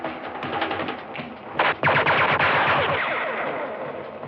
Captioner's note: gunshots; bullets whistling